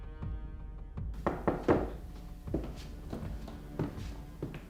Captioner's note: door knocks